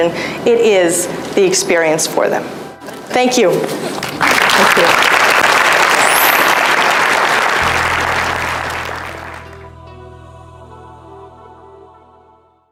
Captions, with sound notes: it is the experience for them. Thank you (applause) (enchanting music)